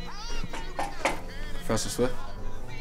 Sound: knock on door

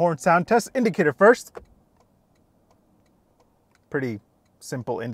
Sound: indicator ticking

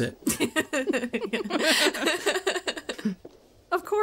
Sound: laugh

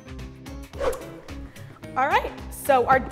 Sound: energetic jazz music; air whooshing

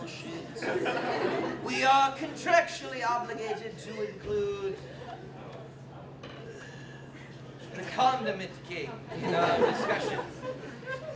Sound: sighs

